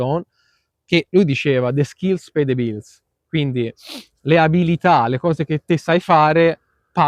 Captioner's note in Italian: sbuffare